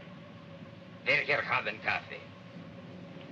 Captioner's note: speaking in Russian